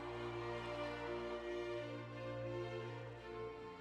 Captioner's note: people cheering